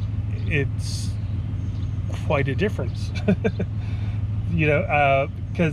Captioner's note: chuckles